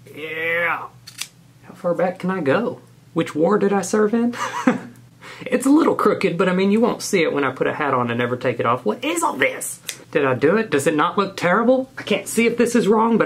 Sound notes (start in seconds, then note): 4.3 man laughing